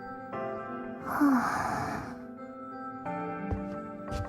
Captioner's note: sigh